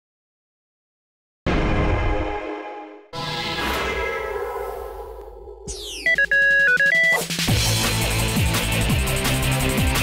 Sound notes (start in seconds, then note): 5.7 beeping; 7.4 theme music